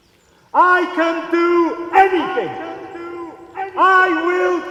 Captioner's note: bellows